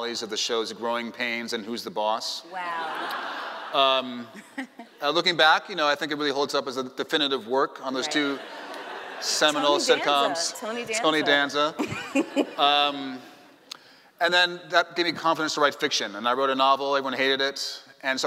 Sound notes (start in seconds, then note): 2.6 laughing; 8.6 laughing; 11.8 laughing